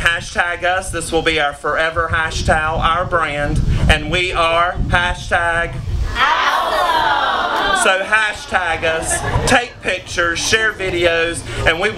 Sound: crowd responds

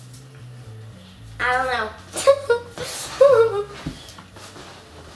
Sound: chuckles

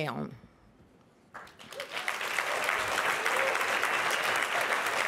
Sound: applause

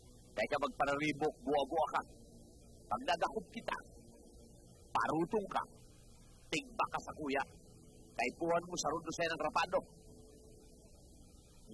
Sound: speaking language

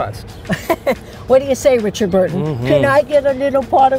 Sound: laughs

